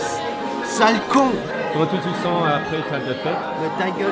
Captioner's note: French